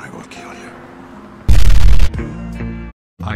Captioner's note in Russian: бум